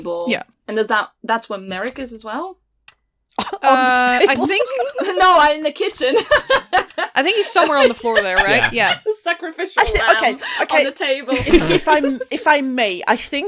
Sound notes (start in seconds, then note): 3.4 laughing; 8.8 laughter; 9.5 laughing